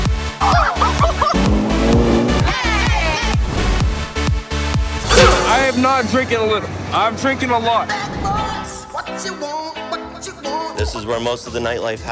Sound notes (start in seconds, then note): 0.4 people laughing; 1.2 engine rumbling